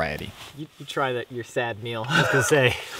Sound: laughs

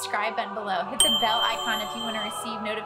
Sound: ding

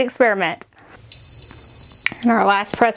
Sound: machine beeps

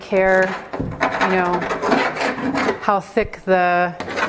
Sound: wood scraping canvas

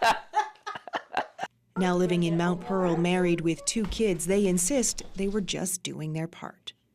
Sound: laughter

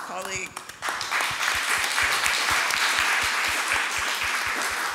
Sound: audience applauds

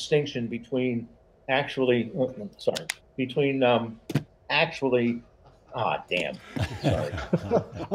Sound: laughs

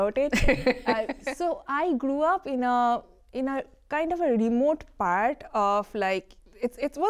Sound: laughter

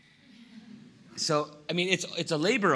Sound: laughter

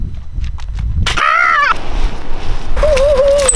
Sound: screams

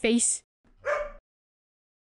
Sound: dog bark

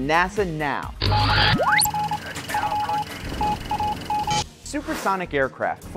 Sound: sound effects

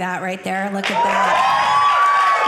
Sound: audience cheering

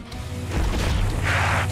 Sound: snarling

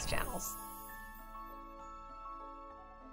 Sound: magical whoosh; soft piano music

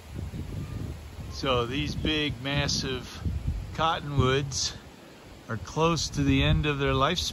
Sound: water rushing

